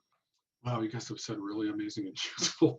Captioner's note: chuckles